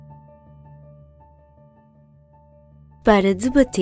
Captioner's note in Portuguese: Piano; Voz feminina